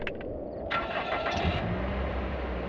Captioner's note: gun clicks; car engine starts